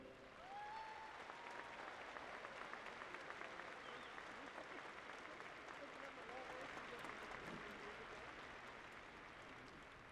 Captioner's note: applause